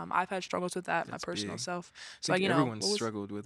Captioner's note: none